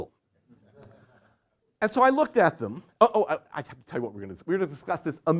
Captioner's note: laughter